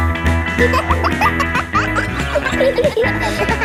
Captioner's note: kids laughing; pop music playing